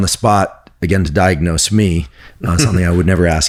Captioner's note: laughs